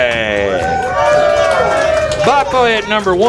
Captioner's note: crowd Cheers